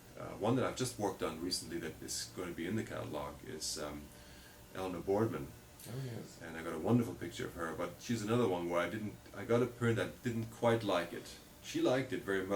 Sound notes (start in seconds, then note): none